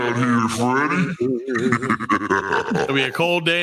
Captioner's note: laughing